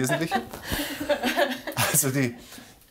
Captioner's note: laughter